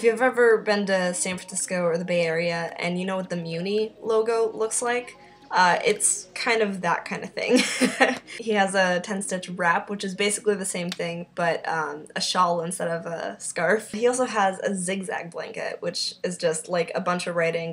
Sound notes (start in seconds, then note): 7.6 laughs